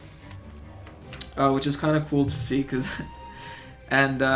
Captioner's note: chuckles